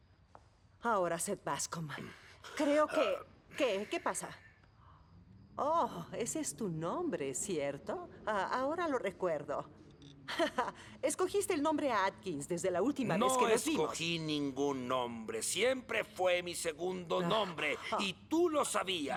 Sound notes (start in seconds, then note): 10.3 chuckling